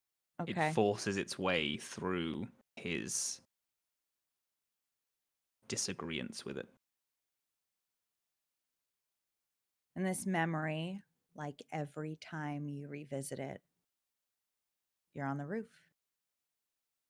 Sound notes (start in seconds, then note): none